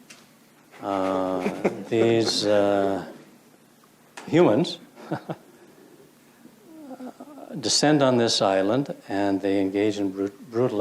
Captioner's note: laughs